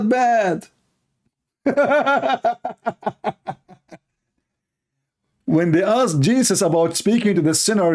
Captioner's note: Ketawa